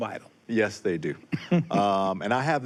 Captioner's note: chuckles